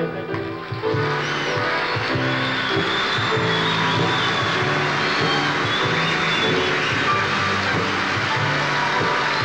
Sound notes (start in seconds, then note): 0.7 cheering